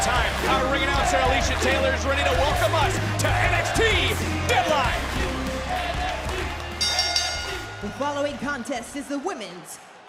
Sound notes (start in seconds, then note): 6.8 bell rings